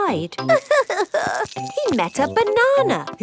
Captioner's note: crying